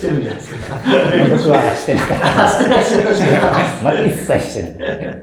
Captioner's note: laughing